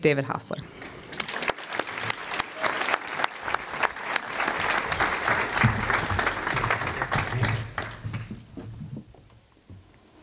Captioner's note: audience applause